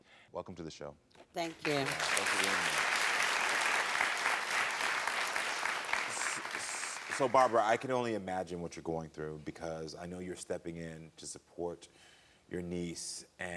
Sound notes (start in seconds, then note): 1.4 crowd cheering